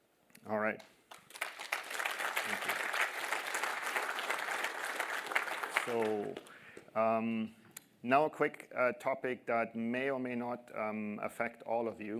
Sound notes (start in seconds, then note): 7.3 applause